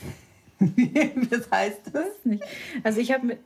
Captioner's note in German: lacht